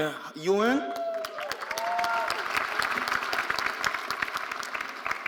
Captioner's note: audience applauding